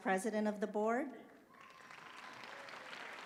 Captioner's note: applause